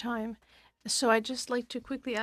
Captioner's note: speaking French